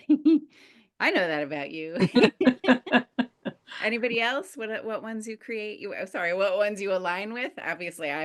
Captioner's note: laughter